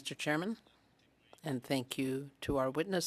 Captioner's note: speaking French